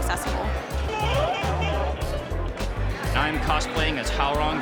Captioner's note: pipe sound effect